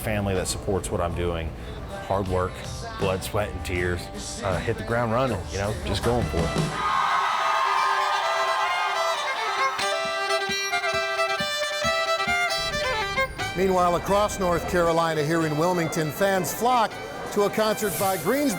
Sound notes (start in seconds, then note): 8.1 crowd cheering; 9.5 bluegrass music